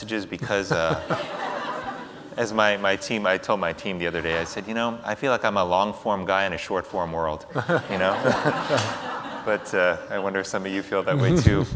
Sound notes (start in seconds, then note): 7.5 audience laughs